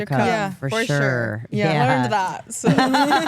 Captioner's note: all laugh